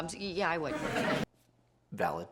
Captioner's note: audience laughs; laughs